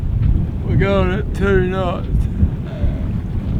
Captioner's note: yawning